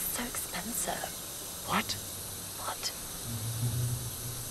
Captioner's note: gas leaking